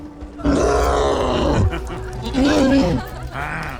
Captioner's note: cyclops roaring